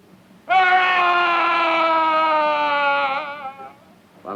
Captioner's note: Andre screams